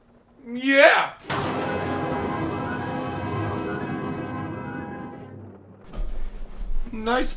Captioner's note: thunder clapping; dramatic music